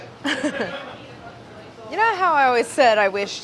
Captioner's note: laughs